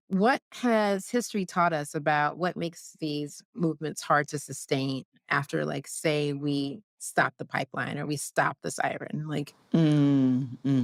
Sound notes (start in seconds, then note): none